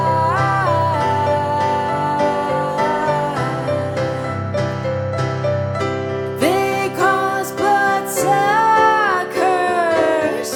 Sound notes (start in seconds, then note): none